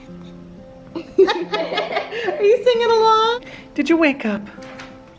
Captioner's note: laughs